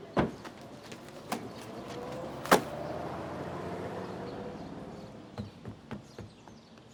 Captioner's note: newspaper thuds; papers thud; footsteps shuffle